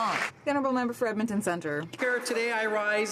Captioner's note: some Applause